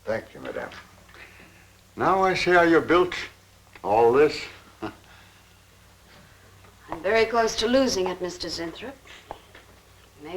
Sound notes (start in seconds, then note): 4.9 chuckling